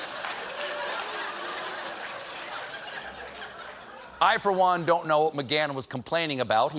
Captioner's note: laughter